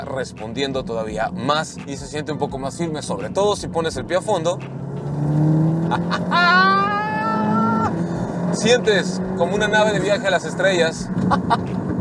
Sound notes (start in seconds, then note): 4.9 engine roaring; 5.8 laughs in excitement; 11.2 laughter